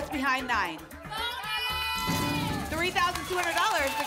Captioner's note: cheering